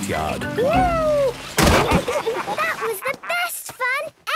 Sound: bangs

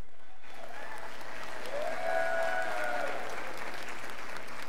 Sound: scholars cheering

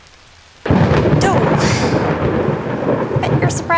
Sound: thunder crashing

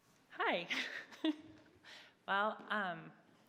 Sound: chuckles

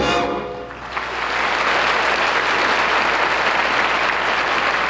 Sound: audience applause

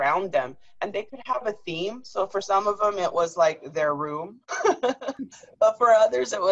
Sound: laughter

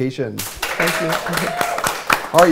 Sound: applause

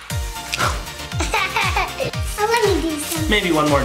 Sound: laughs

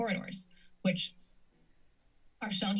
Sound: pause

